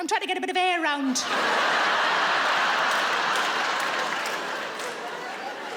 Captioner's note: audience laughs